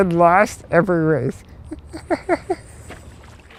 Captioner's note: laughter